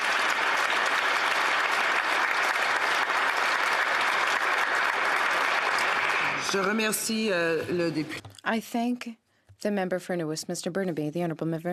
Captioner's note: applause